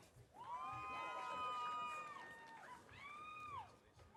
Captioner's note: audience cheering